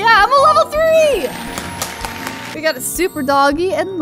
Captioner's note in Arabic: تأثير صوت التصفيق